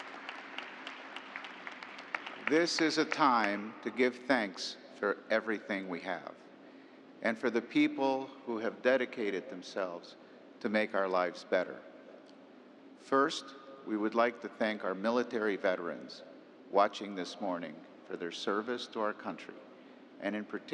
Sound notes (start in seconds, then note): 1.8 applause